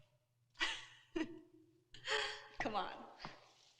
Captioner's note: Carol laughing